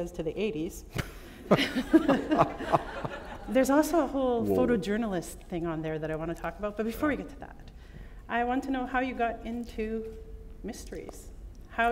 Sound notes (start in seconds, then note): 1.4 laughter